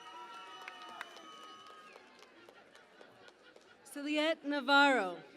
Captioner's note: cheering and Applause